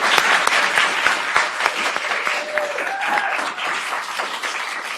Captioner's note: applause